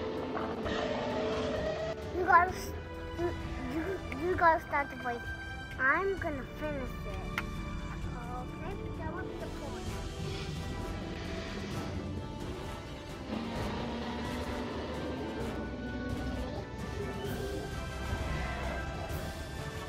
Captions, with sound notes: (dinosaurs roars) You gone to start with, I'm gonna finish it. - Okay, so what's the point (happy music) (dinosaurs roar)